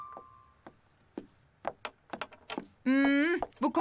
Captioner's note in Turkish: Ayakkabı sesi